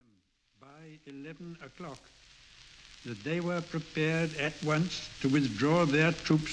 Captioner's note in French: Émission de radio avec parasites et le voix du premier ministre du Royaume-Uni